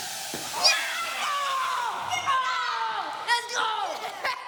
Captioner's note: children cheering